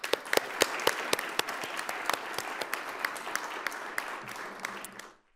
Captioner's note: attendees and panelists applauding